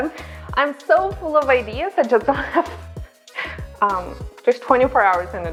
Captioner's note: laughs